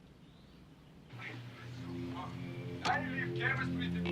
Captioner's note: sound of arguing